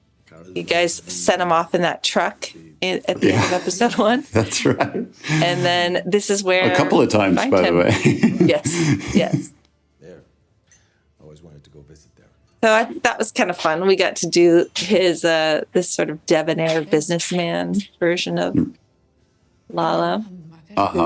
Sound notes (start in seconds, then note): 5.1 laughs; 6.6 laughs